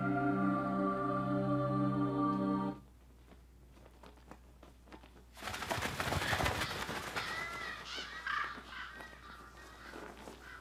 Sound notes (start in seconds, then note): 5.3 birds flapping